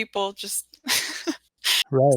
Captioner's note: chuckles